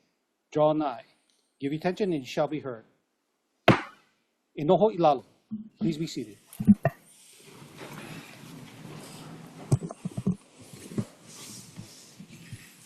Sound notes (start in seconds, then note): 3.6 gavel bangs once